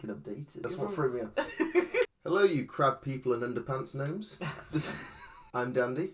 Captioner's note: laughs; laughs